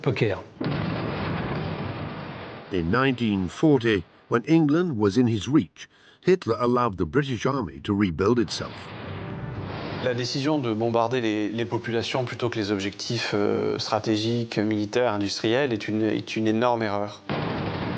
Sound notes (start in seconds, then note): 0.6 explosion booms; 8.4 explosion booms